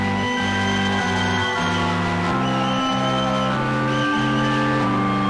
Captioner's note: audience cheering and whistling